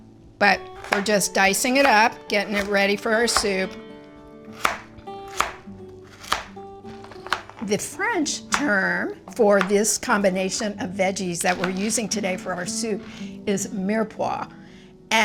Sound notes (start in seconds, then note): 6.0 knife clacking